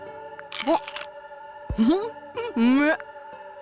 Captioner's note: chomp